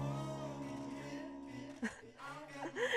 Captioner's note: laughs